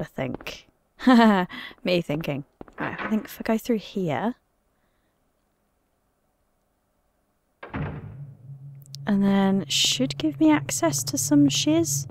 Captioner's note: laughs